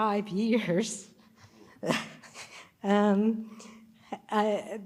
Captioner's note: chuckles